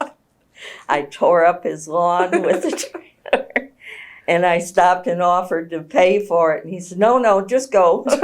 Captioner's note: laughter